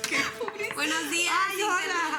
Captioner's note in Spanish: Carcajadas